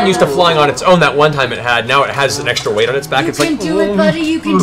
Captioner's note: bear noises